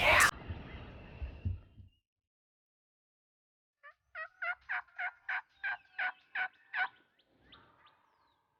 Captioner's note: whispering; whispering